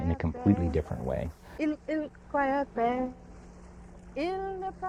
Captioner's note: speaking Chumash